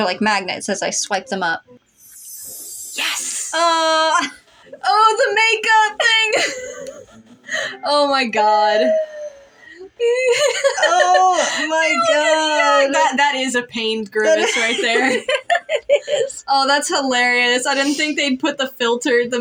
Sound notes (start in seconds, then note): 1.9 sparkly Sound; 4.3 laugh; 6.0 laugh; 9.1 quiet Laugh; 9.6 giggle; 14.2 laugh